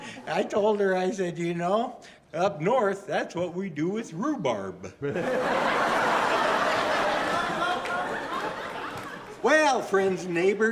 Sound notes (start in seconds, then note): 5.0 audience laughing